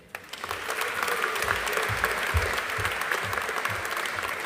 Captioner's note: audience applauding